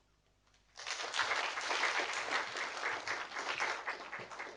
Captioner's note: audience applauding